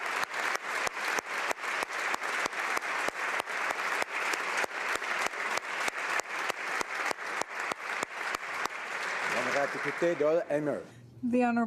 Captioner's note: applause